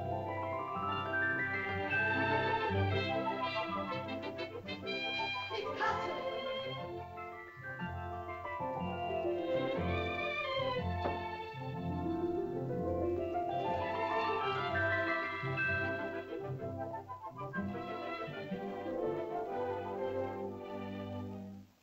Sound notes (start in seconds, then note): 5.6 girl speaks in caveman language; 8.1 whimsical music